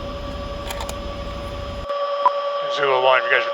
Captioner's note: machinery noises